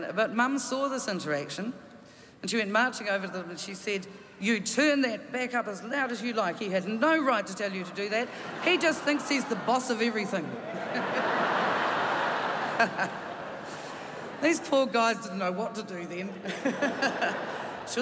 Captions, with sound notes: But Mum saw this interaction, and she went marching over there and she said, "You turn that back up as loud as you'd like. He had no right to tell you to do that. He just thinks he's the boss of everything." [Laughter] These poor guys didn't know what to do then.